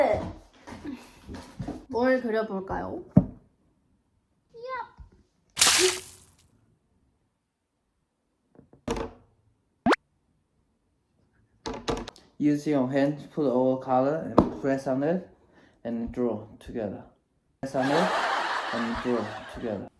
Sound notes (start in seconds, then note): 9.8 awkward silence